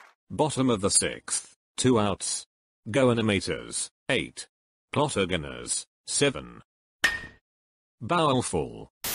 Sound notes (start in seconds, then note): 0.0 applause; 7.0 ball Hit